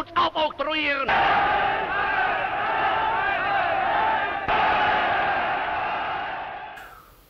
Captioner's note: cheers